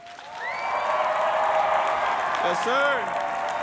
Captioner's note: everyone cheering and applauding